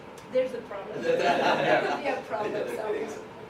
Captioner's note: all laughing